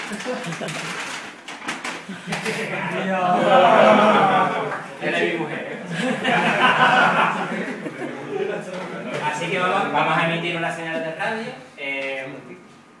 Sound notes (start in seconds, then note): 0.0 laugh; 3.2 acclamation; 5.6 laugh